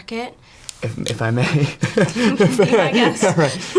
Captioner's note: laughs